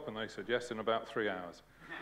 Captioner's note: laughter